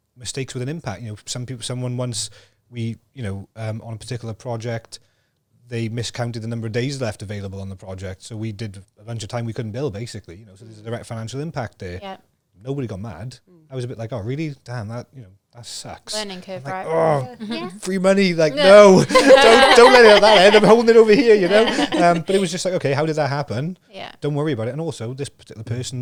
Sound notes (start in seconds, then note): 18.3 laughs